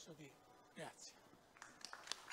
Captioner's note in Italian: Applauso